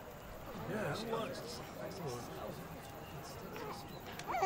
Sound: crowd murmuring

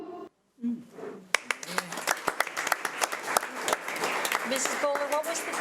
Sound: audience clapping

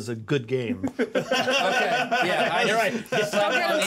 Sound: laughs

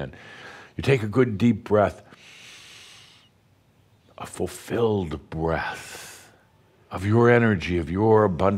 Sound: Adamus takes a deep breath

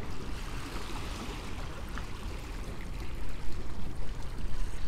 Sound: water splashing

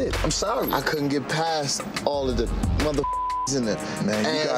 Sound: beep

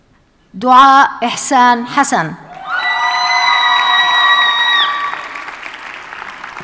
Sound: audience cheers and applauds

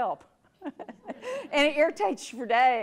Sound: audience laughs

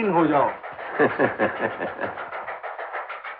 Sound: laughing

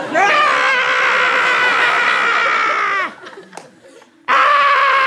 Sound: screams

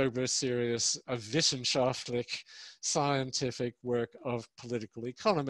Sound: speaks in foreign language

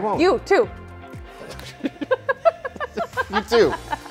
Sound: laughing

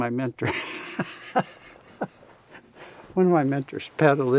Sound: laughs

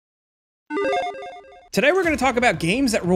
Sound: logo beeps

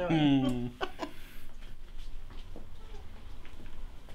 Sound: laughter

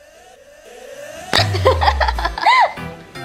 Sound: laughing

